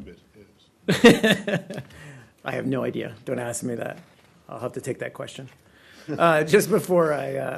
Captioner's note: laughter